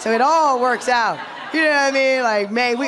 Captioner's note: laughter